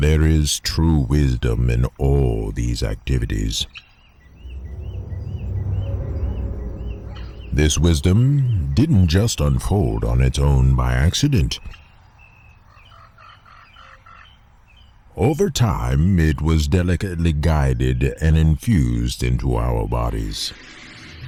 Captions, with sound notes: There is true wisdom in all these activities. This wisdom didn't just unfold on its own by accident. (birds) Over time it was delicately guided and infused into our bodies.